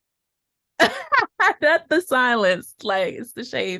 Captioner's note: silence; busts out laughing